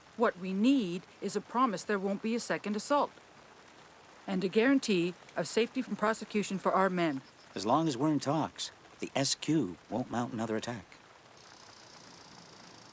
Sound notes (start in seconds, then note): none